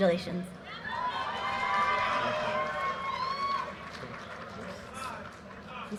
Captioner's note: audience cheers and applause